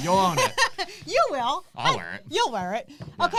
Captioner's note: laughs